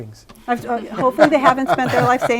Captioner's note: laughter